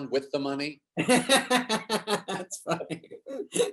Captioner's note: David laughs